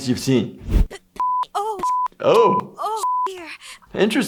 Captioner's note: beep